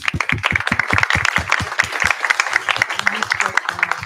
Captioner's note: applause